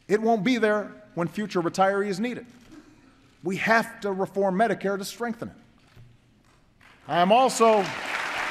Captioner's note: applause